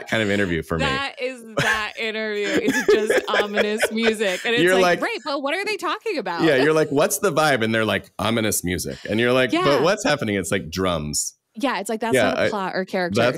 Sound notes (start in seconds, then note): 0.0 laughs; 9.6 ominous music; 10.9 drums